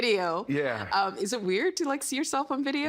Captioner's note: laughing